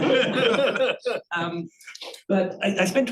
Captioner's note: audience chuckling